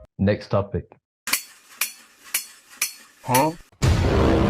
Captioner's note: clamp clamp clamp clamp